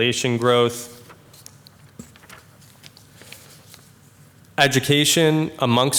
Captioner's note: papers rustling